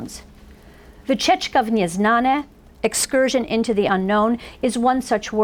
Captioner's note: foreign language